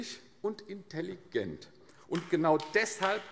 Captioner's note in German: Beifall AfD